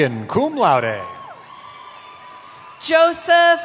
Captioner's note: cheering